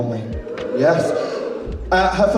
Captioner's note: audience Ohh